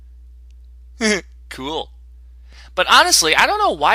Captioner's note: chuckle